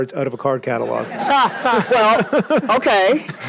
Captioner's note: audience laughs